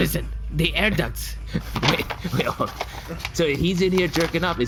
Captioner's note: laughing; shuffling papers